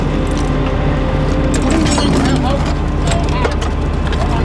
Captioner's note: metal clanging